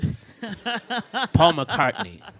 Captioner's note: bursts out laughing